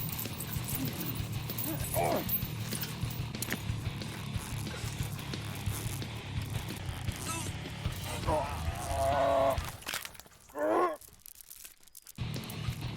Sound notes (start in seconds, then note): 0.0 chain rattles; 6.6 choaking; 9.6 spine snap